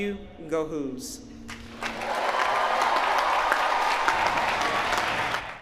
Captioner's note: applause